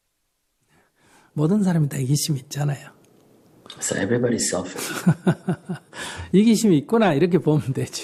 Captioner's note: laughter